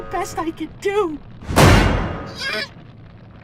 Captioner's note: slam